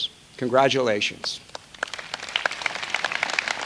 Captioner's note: applause